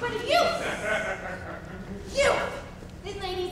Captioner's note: audience member laughs